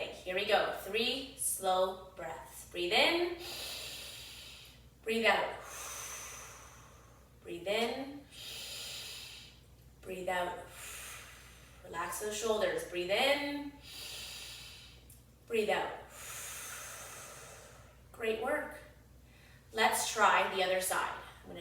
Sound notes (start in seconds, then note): 3.4 inhales deeply; 5.6 exhales deeply